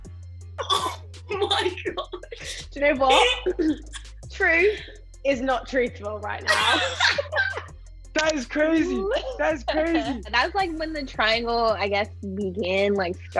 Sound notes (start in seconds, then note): 1.3 laughs; 6.7 laughs